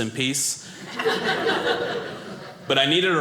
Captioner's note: audience laughing